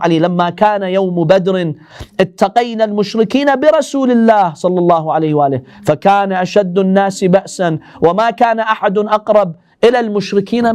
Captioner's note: Arabic